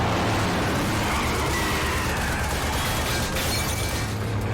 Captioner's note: gunfire